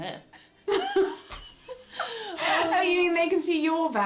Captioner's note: laughter